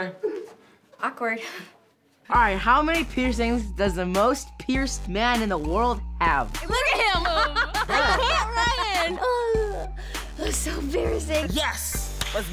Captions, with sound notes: Awkward. - All right, how many piercings does the most pierced man in the world have? - Look at him (laughs). - I can't Ryan. - Oh, that was so embarrassing. - Yes!